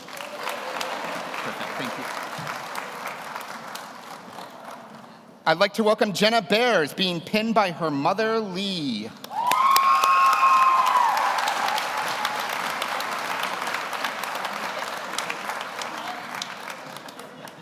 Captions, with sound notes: (audience applauds) Perfect. Thank you. I'd like to welcome Jenna Bears, being pinned by her mother, Lee. (audience cheers) (audience applauds)